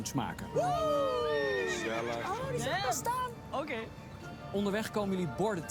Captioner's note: cheering